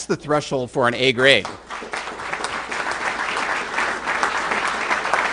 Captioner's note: applause